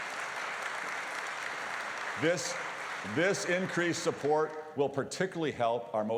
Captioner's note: applause